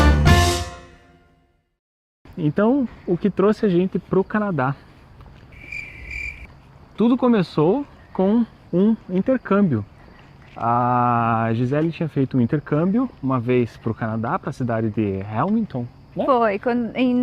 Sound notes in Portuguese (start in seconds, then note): 0.0 música de introdução; 5.1 grilo estrilando